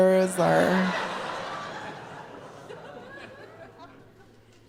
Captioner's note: audience laughing